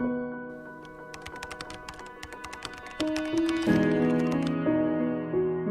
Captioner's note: computer keys clicking